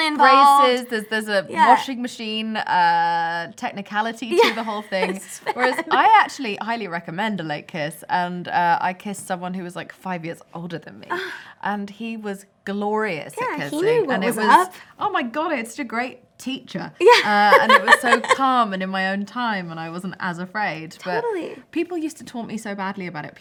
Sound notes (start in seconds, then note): 11.1 gasp